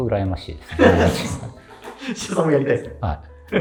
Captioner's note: laughing